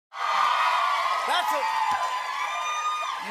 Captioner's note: cheering and applause